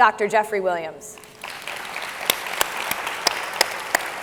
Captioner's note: all clapping